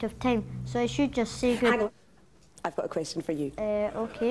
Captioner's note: audience laughs